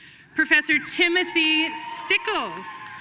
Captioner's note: audience cheering and applauding